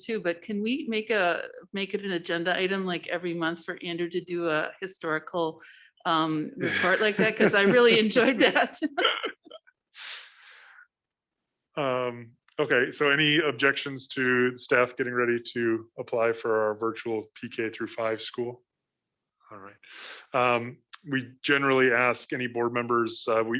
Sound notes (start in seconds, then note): 6.6 laughter; 10.2 laughs